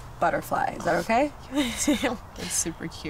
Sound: laughs

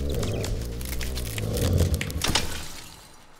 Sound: ice breaking; chirping

